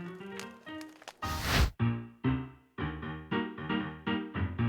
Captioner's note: fire sizzles